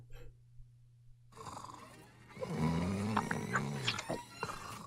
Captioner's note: dragon Snoring